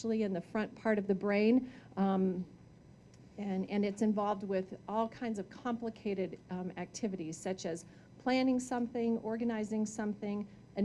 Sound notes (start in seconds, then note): none